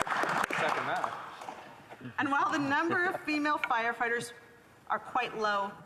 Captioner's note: applause